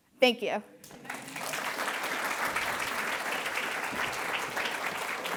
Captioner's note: attendees applauding